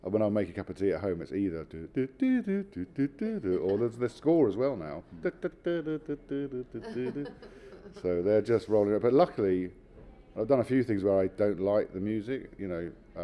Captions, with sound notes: When I make a cup of tea at home it's easy I doo do doo doo. Or there's the score as well now, da da da da dadada (laughing) So they're just but luckily I've done a few things where I don't like the music,